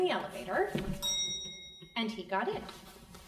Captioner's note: bell dings